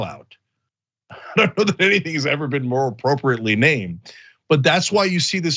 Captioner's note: laugh